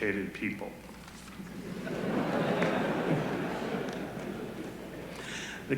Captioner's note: laughter